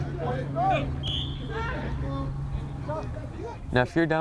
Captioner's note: whistle